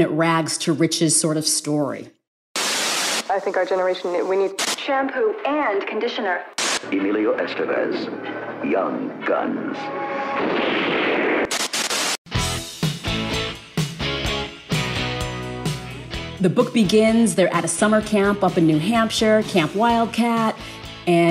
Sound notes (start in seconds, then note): 10.4 gun firing; 12.3 upbeat music